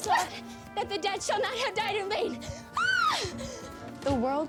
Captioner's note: yells